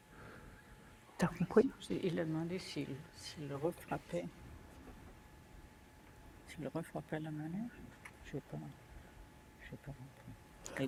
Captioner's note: speaking french